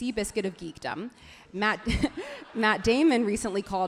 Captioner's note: everyone laughs happily